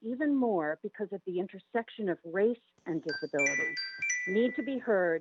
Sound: chime

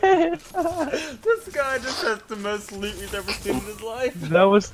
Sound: sniffle

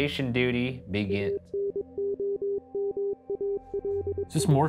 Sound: video game beeping

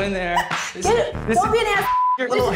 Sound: beep

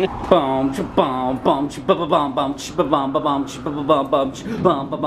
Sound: children growling; making beatbox noises

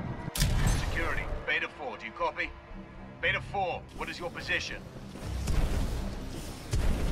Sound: radio

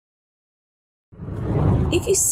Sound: air whooshing

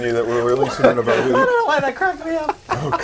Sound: laughter

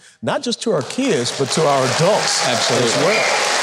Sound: audience clapping

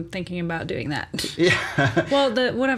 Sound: laughs

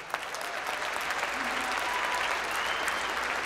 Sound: applause

